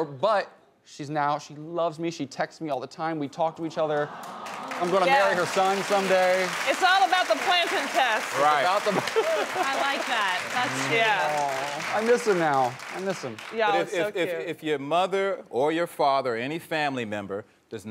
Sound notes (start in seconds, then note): 4.2 audience applauding